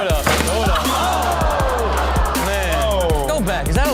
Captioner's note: audience groans